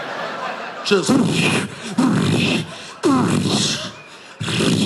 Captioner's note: imitates explosions